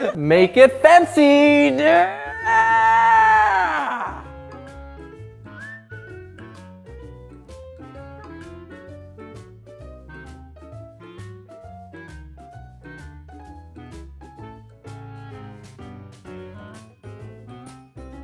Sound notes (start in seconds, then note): 1.8 screams